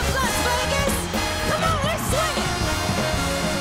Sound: cheers and applause

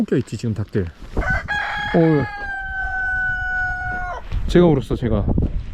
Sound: chicken crowing

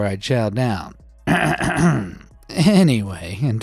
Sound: clears throat

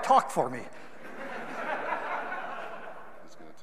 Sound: audience laughing

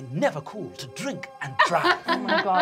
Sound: laughing

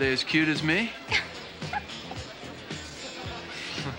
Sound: laughs

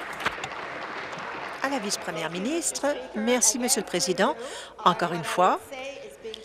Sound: applause

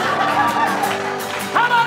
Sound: audience laughs

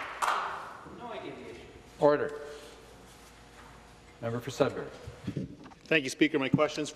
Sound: some Applause

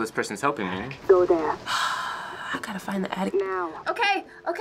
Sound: sighs

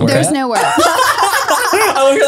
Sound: everyone laughs

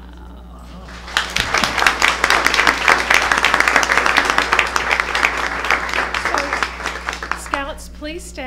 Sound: applause

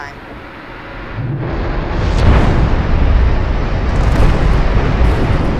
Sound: engines roaring

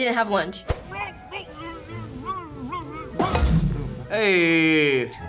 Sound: fire gurgles

